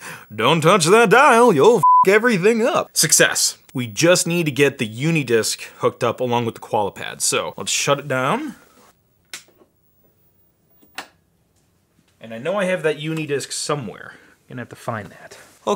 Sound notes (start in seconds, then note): 1.8 beep; 9.6 clicking